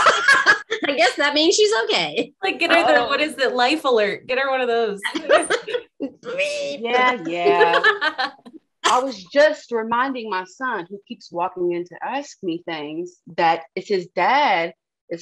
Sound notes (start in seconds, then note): 0.0 laughter; 5.7 more laughter